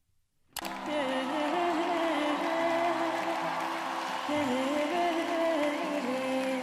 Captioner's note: woman humming vocally and audience cheering and clapping